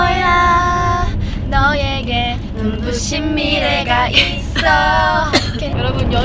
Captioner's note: cough